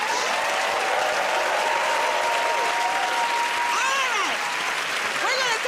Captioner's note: cheering and applause